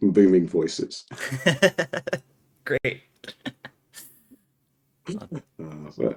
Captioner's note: laughing